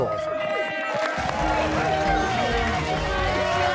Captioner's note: cheers and applause